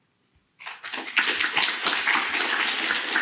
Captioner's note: applause